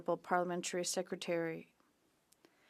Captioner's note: speaking French